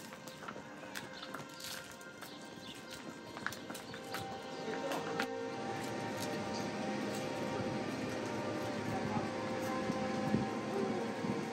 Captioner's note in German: Vögel zwitschern